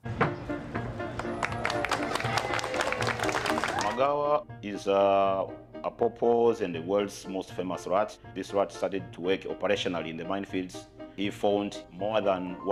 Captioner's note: applause